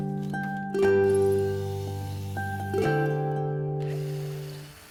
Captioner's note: idyllic instrumental music; drill whirring